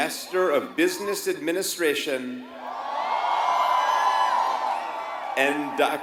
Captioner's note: applause